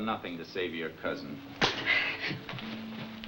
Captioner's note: slaps